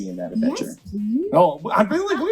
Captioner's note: laughs